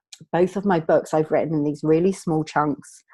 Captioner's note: none